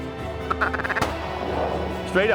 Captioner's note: gun shot